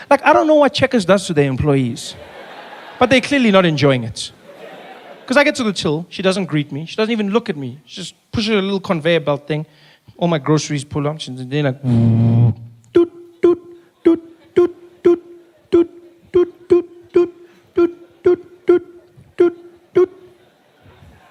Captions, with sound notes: Like, I don’t know what Checkers does to their employees. But they are clearly not enjoying it. Because I get to the till, she doesn’t greet me. She doesn’t even look at me. She just pushes the little conveyer belt thing. All my groceries pull up, she’s like. *Sound of a grocery scanner beeping*